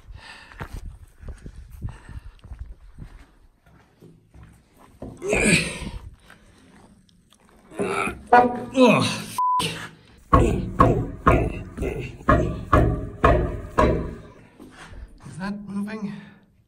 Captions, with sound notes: [straining noises] F**k. [kicks door] clank, clank, clank Is that moving?